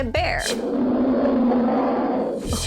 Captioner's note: bear roaring